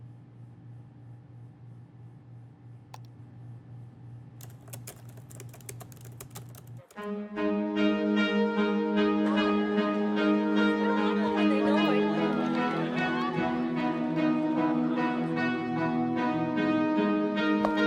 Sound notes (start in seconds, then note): 7.0 all chattering; 7.0 mellow music